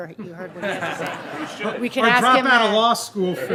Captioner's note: laughing